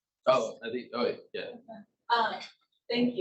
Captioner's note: male Voice